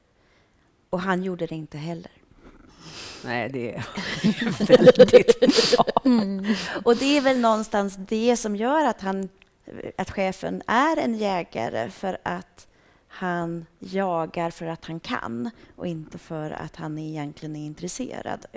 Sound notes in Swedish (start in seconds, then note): 3.9 skratt